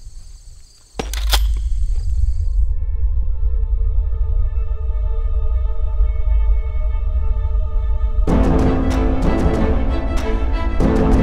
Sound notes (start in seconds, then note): 0.9 gun clicks; 3.5 choral music; 8.1 dramatic music